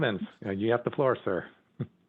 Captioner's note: laughing